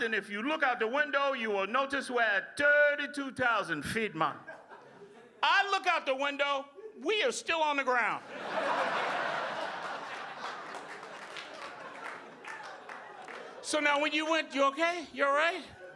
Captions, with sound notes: If you look out the window, you will notice we're at 32,000 feet, man. I look out the window, we are still on the ground. (audience laughing) So now when you went, you okay? You all right?